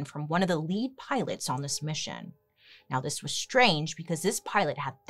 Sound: none

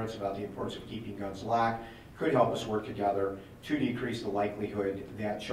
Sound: none

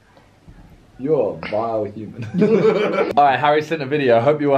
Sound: laughing

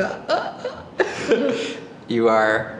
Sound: chuckling

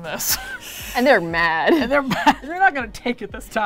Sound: laugh; laughing

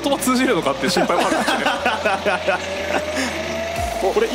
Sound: laughs

